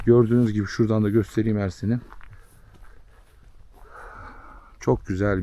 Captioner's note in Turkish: iç çeker